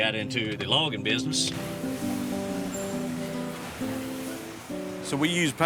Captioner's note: mulch rustling